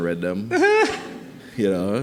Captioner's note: laughing